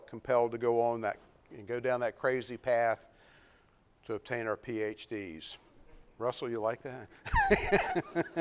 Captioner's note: laughter